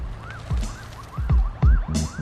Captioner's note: siren wailing